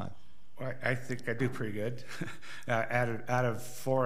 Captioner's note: laughs